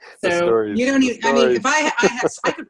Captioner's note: laughter